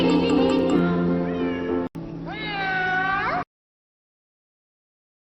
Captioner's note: miaow